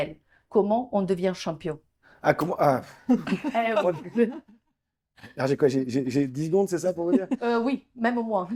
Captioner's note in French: Rires